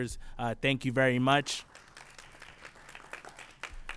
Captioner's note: applause